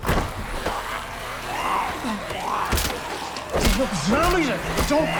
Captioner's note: zombies growling